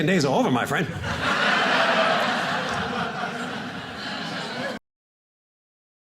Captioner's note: audience laughing